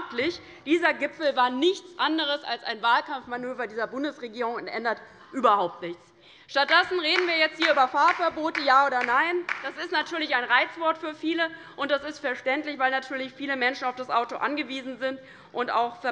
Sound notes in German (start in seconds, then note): 6.6 Beifall bei der LINKEN